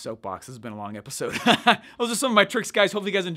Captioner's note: laughs